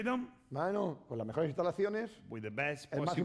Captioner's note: speaking spanish